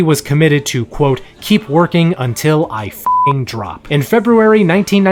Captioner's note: beeps